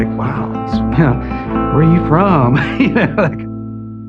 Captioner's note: laugughs